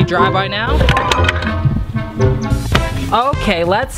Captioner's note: wood clatters